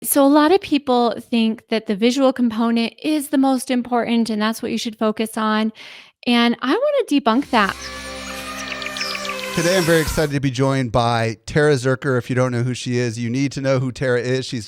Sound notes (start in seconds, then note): 7.3 birds chirps; 7.4 elephant trumpets